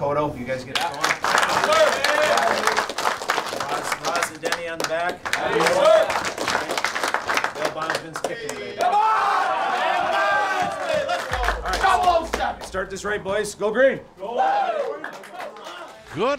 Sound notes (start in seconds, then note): 0.3 team applauds; 4.9 coach drowned out by team yelling